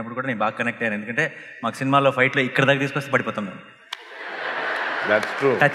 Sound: laughter

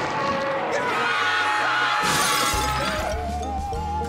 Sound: roaring; screaming

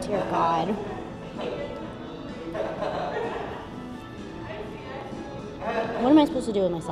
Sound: people laughing in background

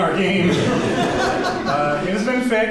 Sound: audience laughs

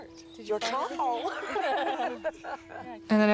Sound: laughter

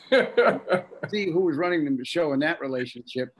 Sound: laughing

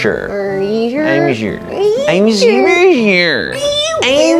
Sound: slurred; even more slurred

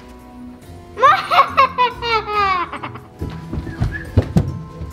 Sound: suspenseful music; evil laughter

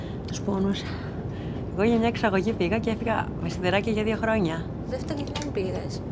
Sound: Vanina and flight attendant speaking foreign language

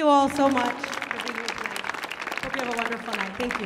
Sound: audience claps

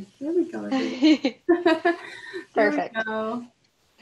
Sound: both laughs

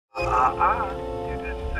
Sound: dissonant chime

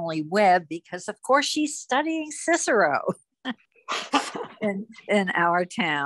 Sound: chuckles

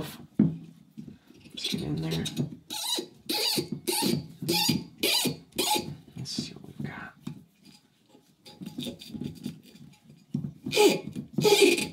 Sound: squeaking

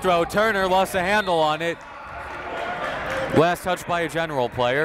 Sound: whistle

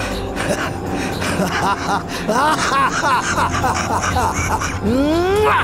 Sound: laughs

